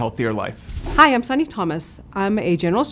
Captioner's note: wind whooshing